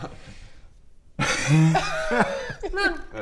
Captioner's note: salty giggles